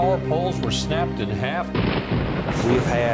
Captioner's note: thunder